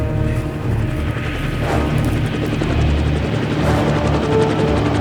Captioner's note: helicopter whizzing